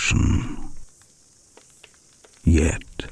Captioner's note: fire crackling and night insects buzzing